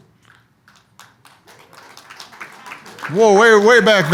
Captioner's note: audience applauds